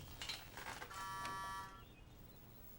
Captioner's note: buzzing